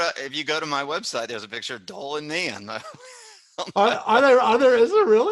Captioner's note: laughs